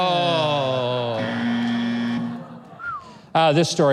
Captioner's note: buzzer sound